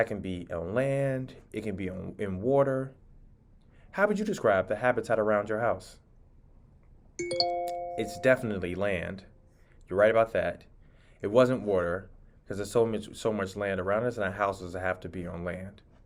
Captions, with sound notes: A habitat can be on land. It can be in water. How would you describe the habitat around your house? (computer chiming) It's definitely land. You're right about that. It wasn't water 'cause there's so much land around us and our houses have to be on land.